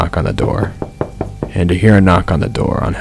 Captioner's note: knocking